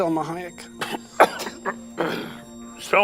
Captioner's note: choking